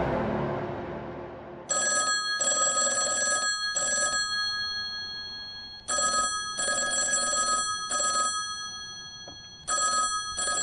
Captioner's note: phone ringing